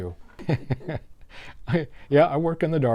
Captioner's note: laughs